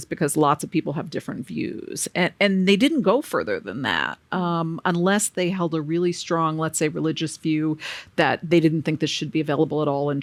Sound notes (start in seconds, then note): none